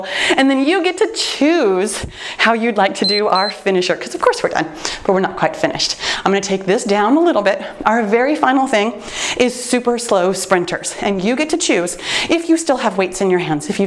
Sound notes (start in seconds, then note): 3.0 timer beeps